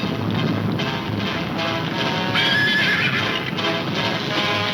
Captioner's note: horses neighing